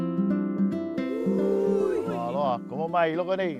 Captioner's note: speaking Hawaiian